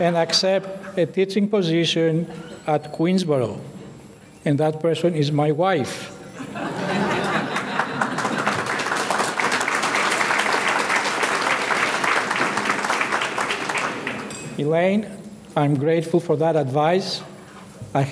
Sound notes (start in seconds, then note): 6.3 audience laughing; 7.2 audience clapping